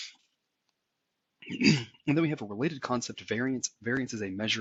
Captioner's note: cough